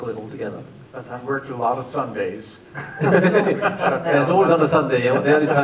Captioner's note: laughter